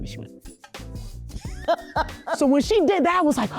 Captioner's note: laughing